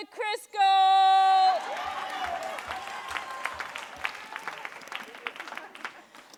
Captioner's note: audience cheering and applauding